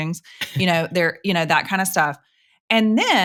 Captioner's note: chuckles